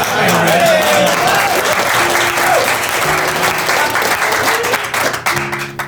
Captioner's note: clapping and cheering